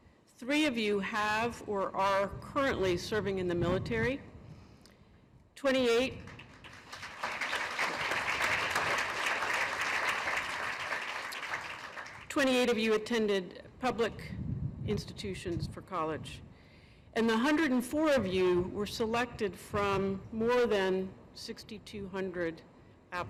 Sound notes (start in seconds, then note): 6.1 applause